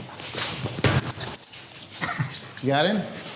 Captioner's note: squeaking